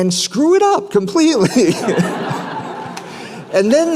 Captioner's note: laughter